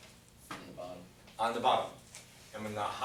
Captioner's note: voiceover